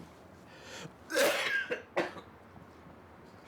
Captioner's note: coughs